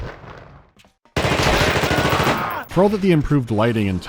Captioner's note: rapid gunfire